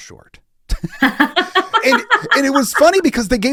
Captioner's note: laugh